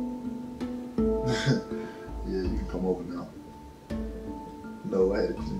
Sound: laughs

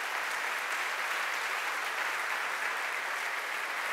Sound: applause

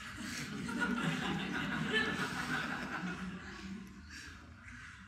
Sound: audience laughing

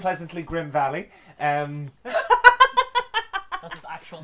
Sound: laughter

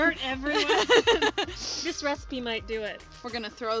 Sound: laughs

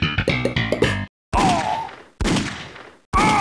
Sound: gunshots

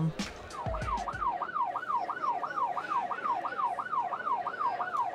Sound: police sirens screaming

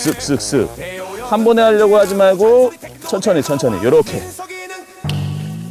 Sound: sigh more and more

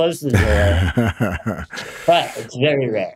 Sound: laughs

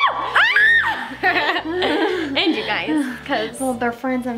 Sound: screams loudly

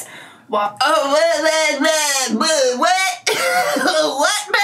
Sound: laughs

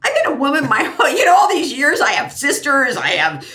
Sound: laughs

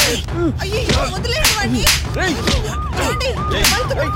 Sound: police siren wails

